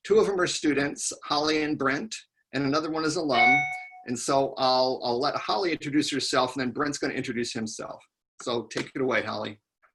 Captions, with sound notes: Two of them are students, Holly and Brent, and another one is alum, (beeps) And so I'll let Holly introduce herself and then Brent's gonna introduce himself. So take it away, Holly.